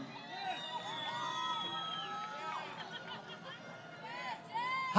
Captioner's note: crowd Cheering